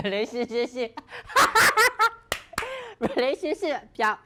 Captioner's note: laughs